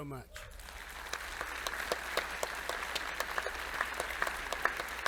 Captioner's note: audience applauding